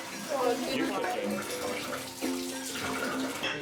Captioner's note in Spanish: Charla de fondo